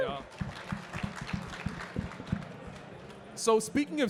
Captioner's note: audience clapping